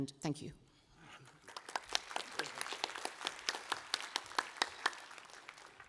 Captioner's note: applause